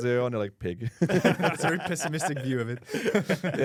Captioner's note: laughs